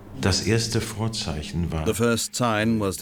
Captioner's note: speaking German